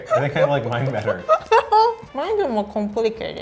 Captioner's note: laughing